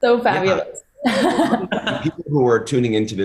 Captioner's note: laughter